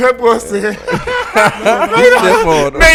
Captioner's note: laughing